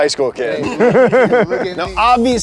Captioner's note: laughs